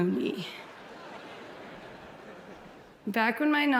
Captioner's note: audience laughs